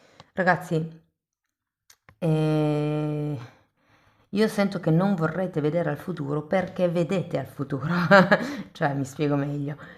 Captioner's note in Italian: risate